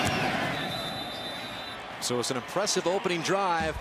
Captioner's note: whistles